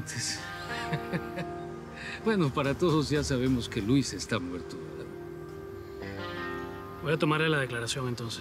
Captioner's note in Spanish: Risas